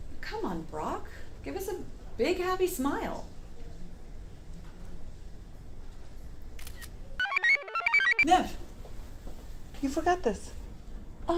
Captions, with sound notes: Come on, Brock. Give us a big happy smile. (shutter snaps) (computer chirps) - Nev! You forgot this.